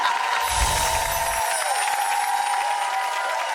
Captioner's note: audience cheers